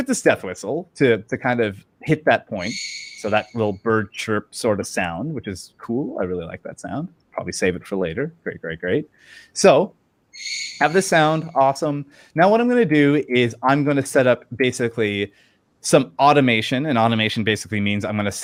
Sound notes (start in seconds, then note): 10.3 high pitch squeak echoes and lingers; 10.4 death whistle squeak